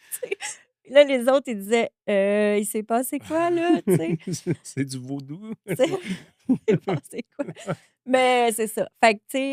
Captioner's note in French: rires